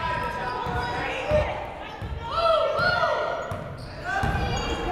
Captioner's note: people shouting in the crowd